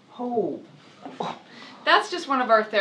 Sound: chuckling

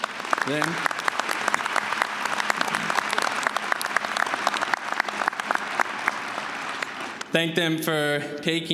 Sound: applause

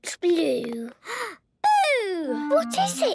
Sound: gasps

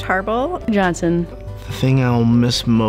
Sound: voiceover

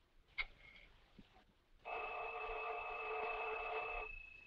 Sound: telephone ringing

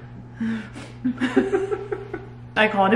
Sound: both laughing

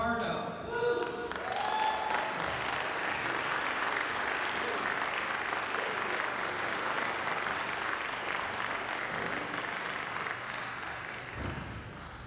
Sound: applause

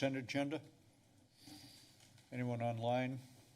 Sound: pause

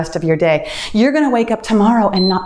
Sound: timer beeps

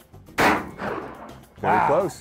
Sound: gun firing

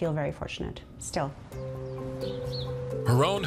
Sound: gentle music; birds chirping

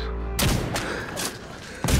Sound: shot fired; heavy breathing

